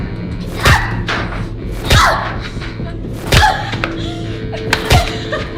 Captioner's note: screaming